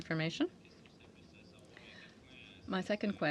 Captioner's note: speaking in French